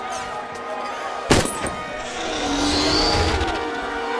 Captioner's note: gunshot